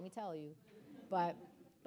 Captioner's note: audience laughing